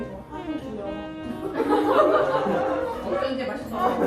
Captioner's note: Laughter